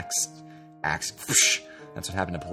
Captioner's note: exhales